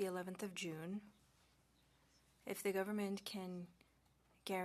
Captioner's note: speaking French